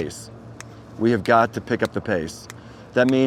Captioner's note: snapping